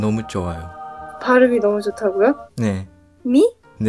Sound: Korean

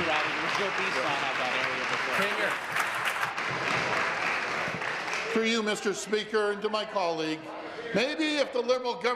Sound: applause

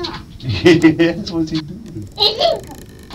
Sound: man laughing

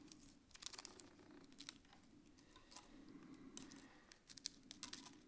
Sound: paper scratching

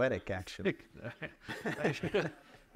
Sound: audience laughs

